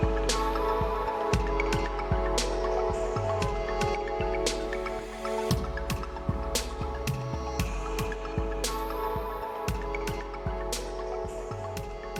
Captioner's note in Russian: ликование